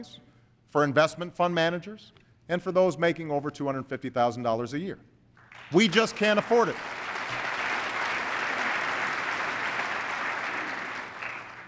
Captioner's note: applause